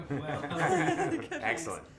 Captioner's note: laughter